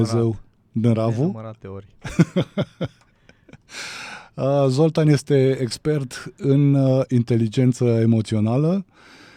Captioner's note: laughter